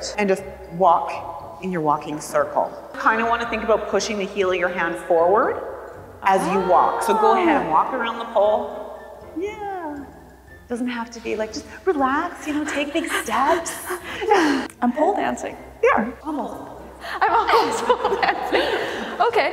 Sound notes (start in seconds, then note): 12.8 both laughing; 13.5 panting; 17.4 both laughing